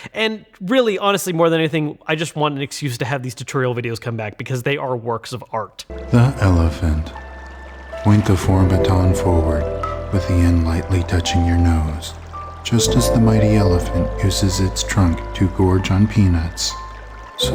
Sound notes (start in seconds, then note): 6.2 voiceover